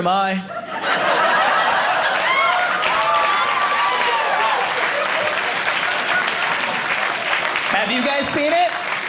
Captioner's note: audience cheering